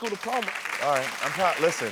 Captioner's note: audience applauding